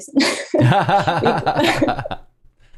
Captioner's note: laughter